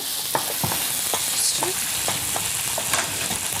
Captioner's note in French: Bruit de torréfaction